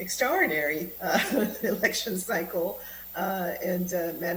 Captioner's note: laughter